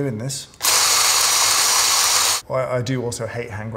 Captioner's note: drill grinding